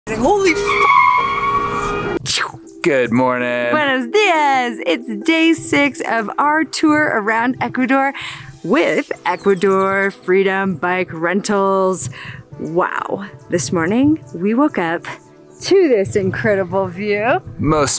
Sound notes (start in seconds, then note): 0.1 car screeching; 1.1 beep; 3.8 speaking in foreign language